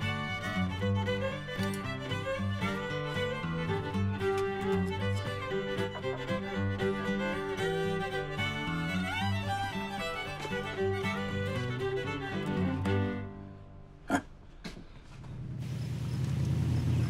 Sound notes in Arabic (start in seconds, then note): 14.2 يضحك